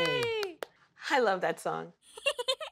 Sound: giggles

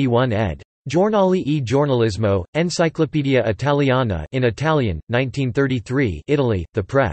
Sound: in Italian

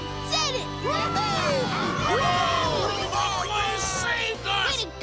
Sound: cheering

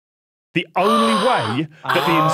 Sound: gasps

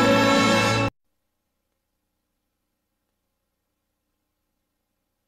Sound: silence

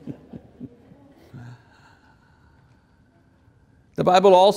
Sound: congregation chuckles

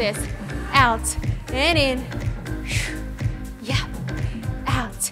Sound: blows air

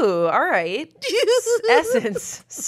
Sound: giggles

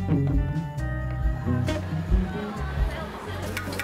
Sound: crowd chattering; utensils clanging

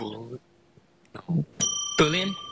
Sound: bell dings

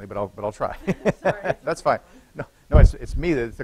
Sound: laughter

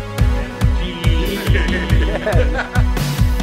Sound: group chuckling

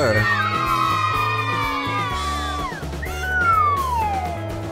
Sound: children cheer

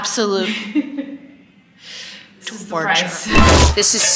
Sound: chuckling

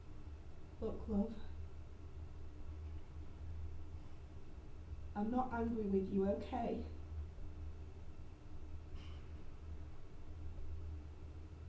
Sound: muffled behind the door

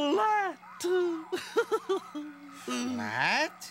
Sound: chuckles

